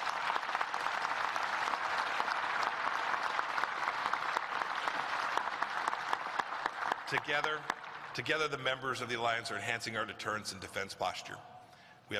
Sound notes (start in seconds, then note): 0.0 applause